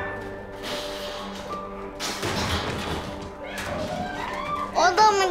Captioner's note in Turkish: Eşyalar devriliyor